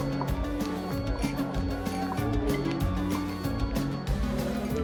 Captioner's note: glasses clinking together